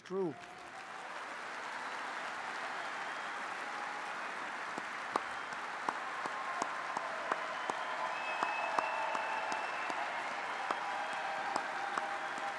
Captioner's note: applause